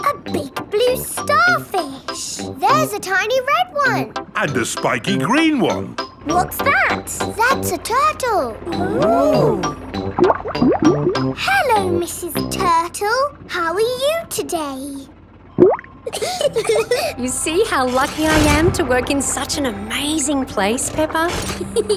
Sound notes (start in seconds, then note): 9.2 bubbling; 15.5 bubbles; 16.0 laughing